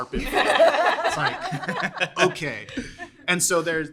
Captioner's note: everyone laughs; more laughing